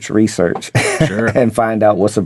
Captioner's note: laughing